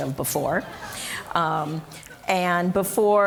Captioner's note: audience laughing